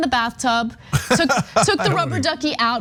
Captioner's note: laugh